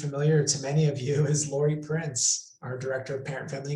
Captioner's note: laughs